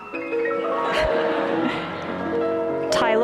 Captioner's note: laughter